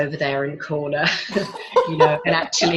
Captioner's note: laughs